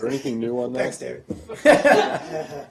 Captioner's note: laughter